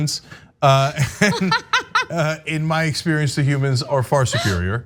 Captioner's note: laugh